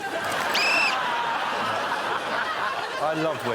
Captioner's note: blows whistle